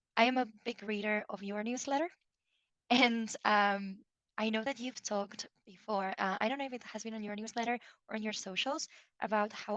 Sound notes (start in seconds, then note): 3.2 chuckles